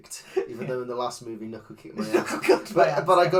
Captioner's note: laughing; laughs